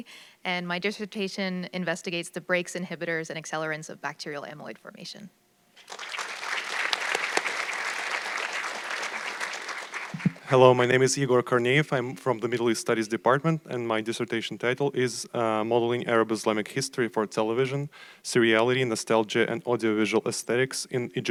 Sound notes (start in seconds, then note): 5.8 audience clapping